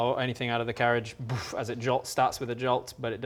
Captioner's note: boof